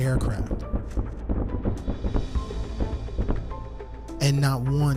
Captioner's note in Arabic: انفجار ذخائر بعيدة